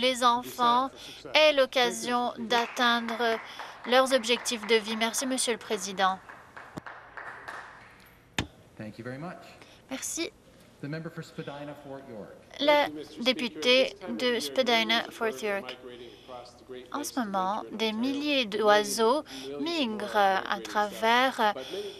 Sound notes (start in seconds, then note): 6.2 applause